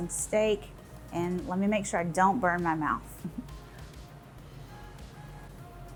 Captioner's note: chuckles